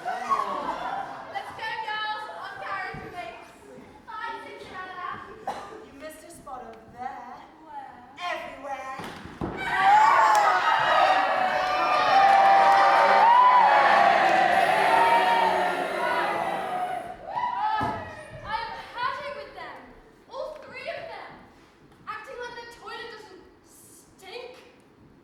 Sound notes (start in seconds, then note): 0.0 audience laughs; 9.1 audience: WOAHHHH; 10.2 audience: BOOOOOOO, HISSSSS